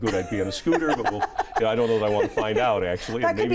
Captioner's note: laughs